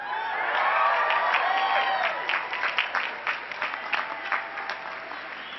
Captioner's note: cheering and clapping